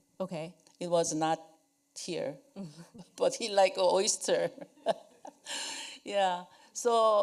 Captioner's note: chuckles